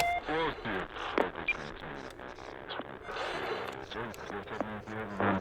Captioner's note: relays click; muffled voice